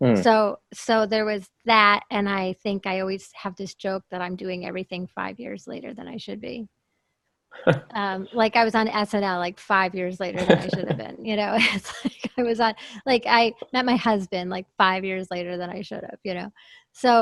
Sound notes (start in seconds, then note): 7.6 laughs; 10.3 laughs